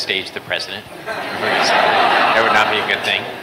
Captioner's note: laughter